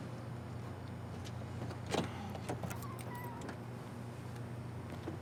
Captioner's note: insects chirping